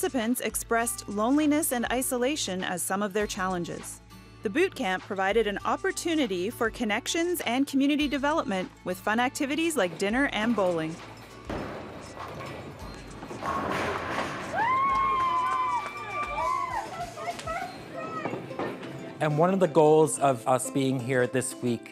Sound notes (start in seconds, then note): 13.2 pins falling; 14.7 clapping